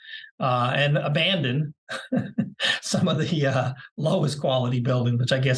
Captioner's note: laugh